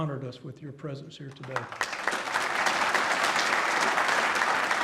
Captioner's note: applause